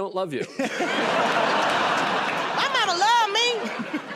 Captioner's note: laughter and applause